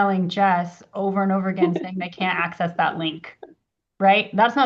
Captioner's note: laughs